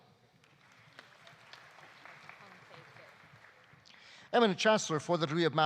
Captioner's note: audience applauding